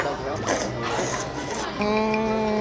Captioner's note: can’t resist, slurp